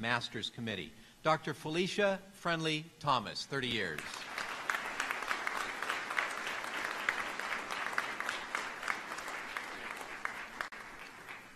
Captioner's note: applause